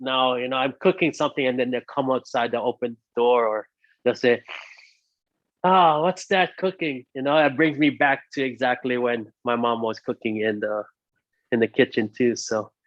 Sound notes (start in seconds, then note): 4.5 chef inhales